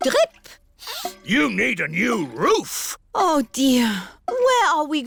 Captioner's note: sniffs